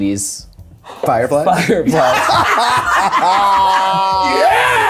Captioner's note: everyone laughing